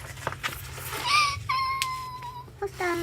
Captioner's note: cries